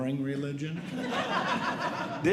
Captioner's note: audience Laughing